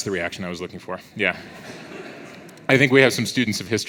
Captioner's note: audience laughs